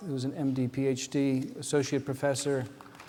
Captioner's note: background applause